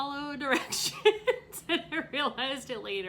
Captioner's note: laughs